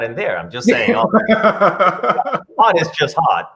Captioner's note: laughs